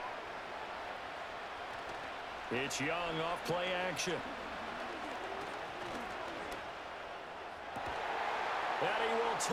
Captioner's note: applause